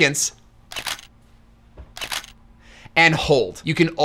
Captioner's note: camera clicks